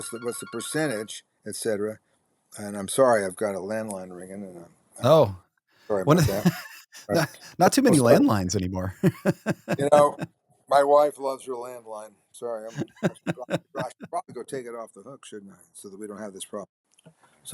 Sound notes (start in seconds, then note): 8.8 chuckling